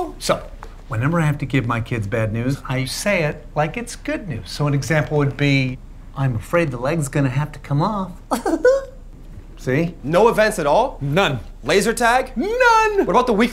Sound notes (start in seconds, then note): 8.2 chuckles